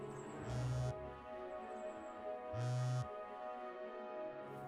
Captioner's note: phone buzzing